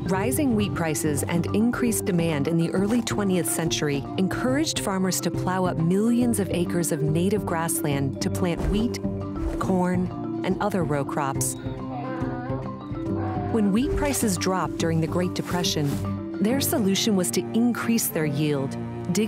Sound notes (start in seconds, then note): 12.0 animals chattering